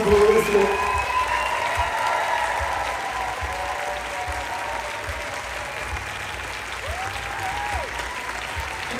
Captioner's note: applause